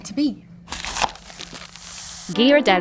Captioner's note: cardboard tearing; paper crinkling